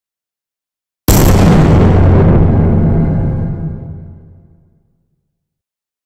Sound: sound of explosion

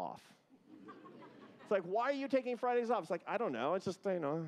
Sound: laughter

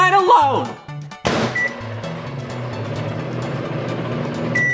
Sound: door clicks; microwave humming; microwave beeping

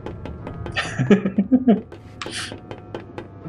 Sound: giggles

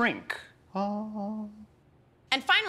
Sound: humming

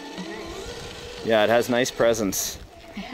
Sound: engine revving

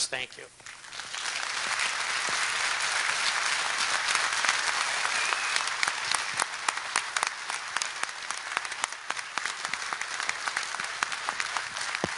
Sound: applause

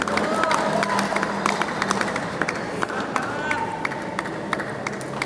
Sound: applause

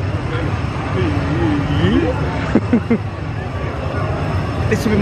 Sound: imitates rewinding voice

